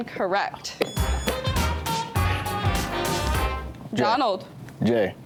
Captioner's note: buzzer beeps; lively music